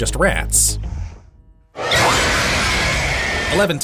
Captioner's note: mind flayer screeches